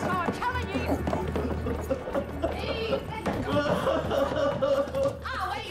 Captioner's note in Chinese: 啜泣聲